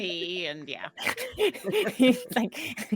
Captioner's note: player laugh